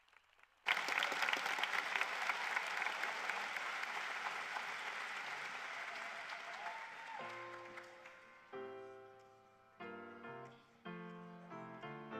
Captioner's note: cheers and Applause